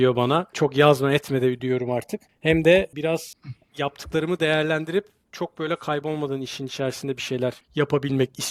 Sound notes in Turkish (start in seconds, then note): 3.4 boğazını temizler